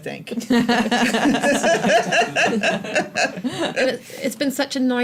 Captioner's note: laughter